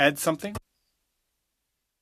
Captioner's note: speaking French